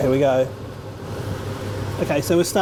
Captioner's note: extractor fan whirring in the background